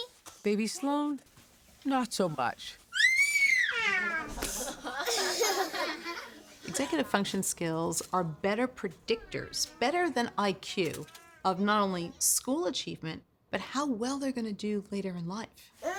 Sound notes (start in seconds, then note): 2.9 screams